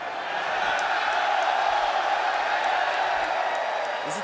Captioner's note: fans cheering